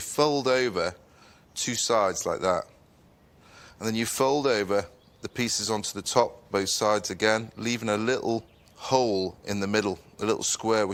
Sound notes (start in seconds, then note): none